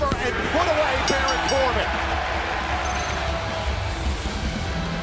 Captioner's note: bell ringing